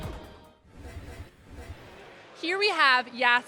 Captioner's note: scene whooshing